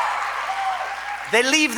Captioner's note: applause